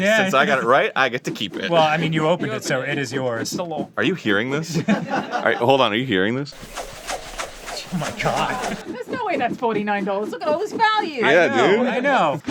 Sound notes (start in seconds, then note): 6.5 tentacular whoosing